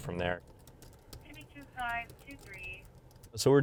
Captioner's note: typing sounds